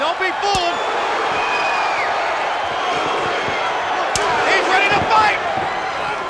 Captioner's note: crowd cheering; blows thudding